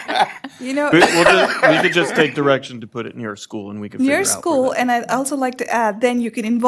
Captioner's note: laughter